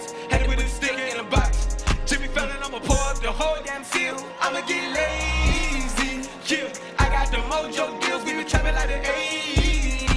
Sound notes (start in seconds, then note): 3.4 cheering and applause